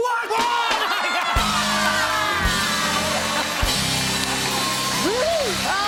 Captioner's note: cheers and applause